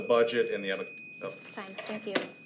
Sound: timer beeps

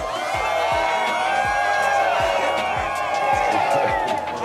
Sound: crowd cheering

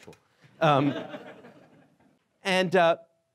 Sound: laughing

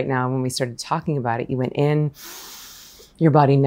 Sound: breaths gently

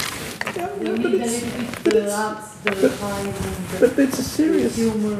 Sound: overlapping chatter

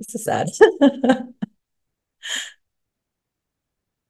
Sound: laughs

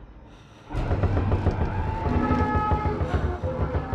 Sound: thumping, screaming

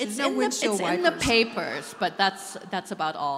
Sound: audience laughing

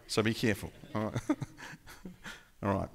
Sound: laughing

